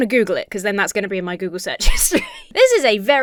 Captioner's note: laughs